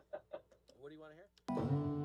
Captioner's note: laughter